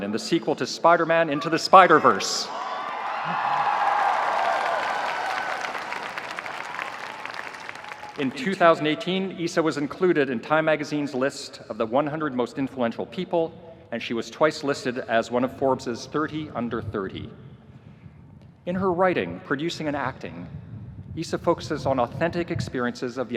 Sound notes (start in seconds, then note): 2.4 audience cheering; 2.5 audience applauding